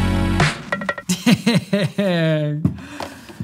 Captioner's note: laughs